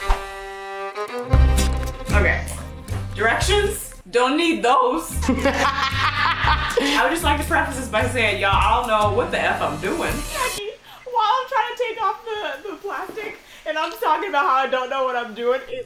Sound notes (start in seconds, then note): 0.0 funky music; 5.2 laughs loudly